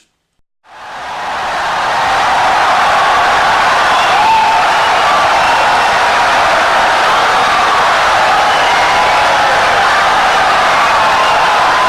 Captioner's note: wild applause and cheering for 17 seconds